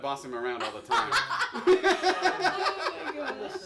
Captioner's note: laughing